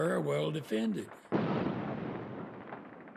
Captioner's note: artillery fire